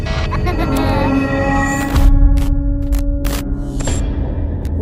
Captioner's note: child laughing